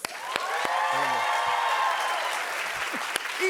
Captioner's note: cheers and applause